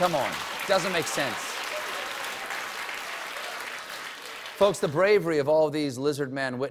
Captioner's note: applause